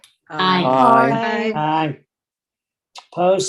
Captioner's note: multiple ayes